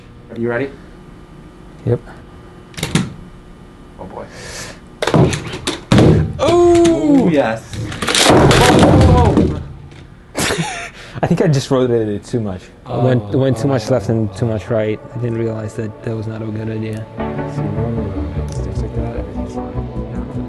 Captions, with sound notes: Are you ready? Yep! Go for it. Oh yes! [gasp and laugher] I think i just rotated it too much. It went too much left and then and too much right. I didn't realize that that was not a good idea. [music and background talking]